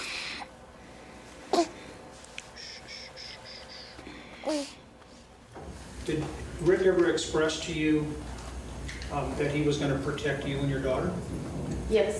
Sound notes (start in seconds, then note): 0.9 shushes; 0.9 son grunts